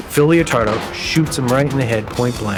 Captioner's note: gunshot